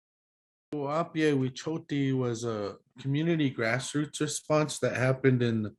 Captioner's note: speaking Lakota